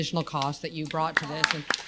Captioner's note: applause